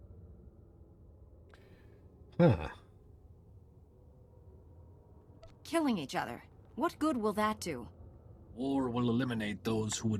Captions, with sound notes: [sighs] Killing each other. What good will that do? War will eliminate those who